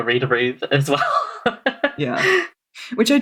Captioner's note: laughs